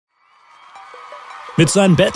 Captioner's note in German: Jubel